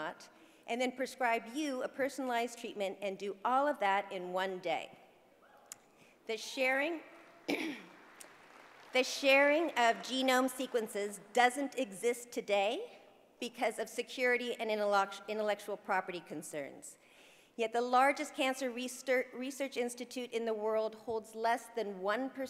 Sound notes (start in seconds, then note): 7.4 cough; 7.7 applause